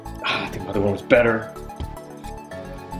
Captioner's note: upbeat music; sighs; upbeat music